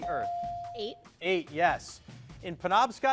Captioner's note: bell dings